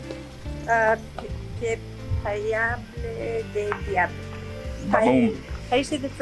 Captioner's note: speaks foreign language